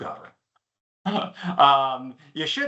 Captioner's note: chuckles